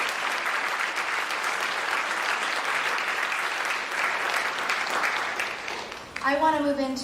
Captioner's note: applause